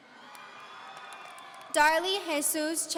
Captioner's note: audience cheering